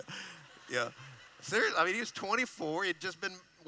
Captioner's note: laughing